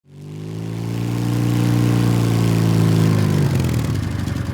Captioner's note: motorcycle engine roars